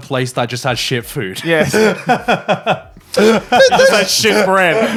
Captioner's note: laughing